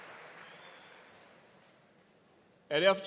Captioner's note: cheers and applause